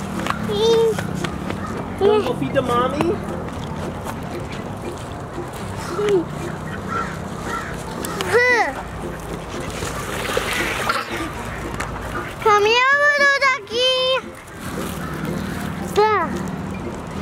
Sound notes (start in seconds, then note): 4.7 laughs; 9.8 ducks quack; 10.1 laughs